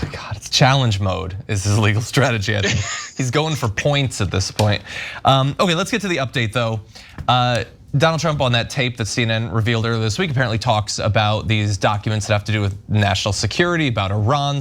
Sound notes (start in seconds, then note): 2.6 laugh